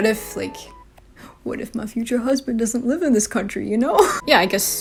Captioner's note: laughs